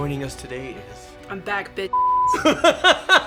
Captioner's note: beeps